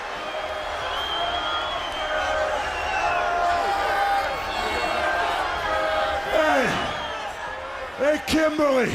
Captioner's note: crowd chatter